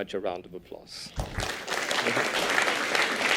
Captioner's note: applause